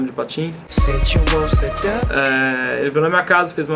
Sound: ding!

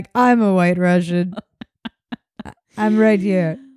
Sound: laughing

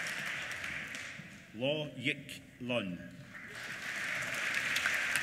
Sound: applause

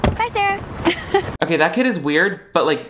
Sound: laughs

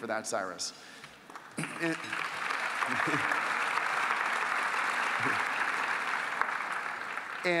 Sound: applause

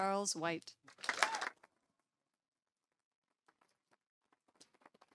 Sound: audience applauding

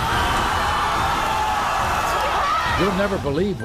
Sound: audience cheers

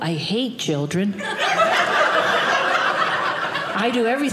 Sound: audience laughing

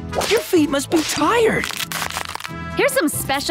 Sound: cracking

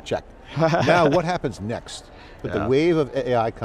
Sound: laughing

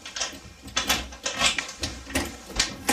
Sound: rustling sound; door closing; clattering sound

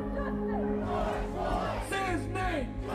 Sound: crowd

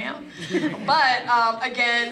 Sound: laugh

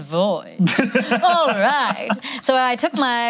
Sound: laughing

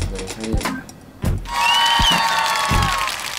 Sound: applause

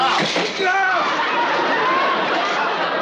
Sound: screaming

